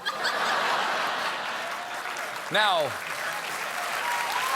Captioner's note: laughter; applause; cheers